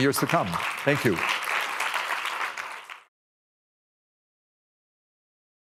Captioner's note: audience applauding